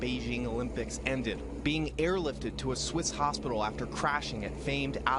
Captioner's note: sounds of helicopter rotor